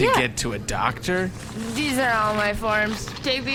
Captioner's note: slurring